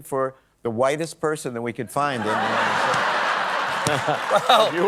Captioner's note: laughter